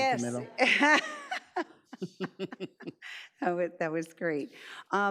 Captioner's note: laughs